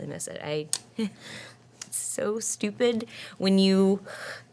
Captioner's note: gasps